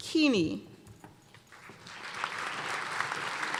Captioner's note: applause